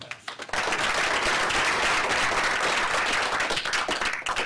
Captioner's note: applause